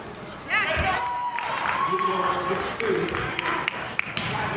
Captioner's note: cheering